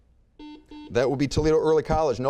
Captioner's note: buzzer beeping